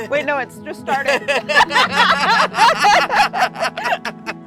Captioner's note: both laughing